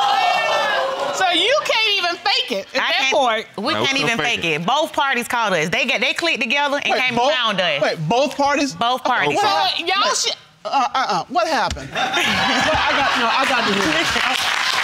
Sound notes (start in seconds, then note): 11.9 audience laughing